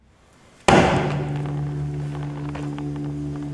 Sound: mannequin thuds; tense foreboding music

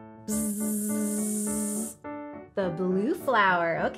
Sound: buzzing

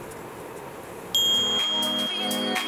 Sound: ding

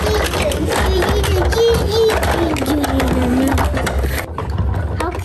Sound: children vocalizing; children mumbling

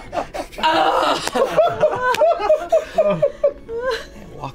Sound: laughter

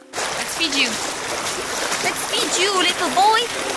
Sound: water lapping

